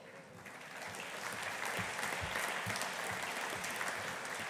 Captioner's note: audience applauding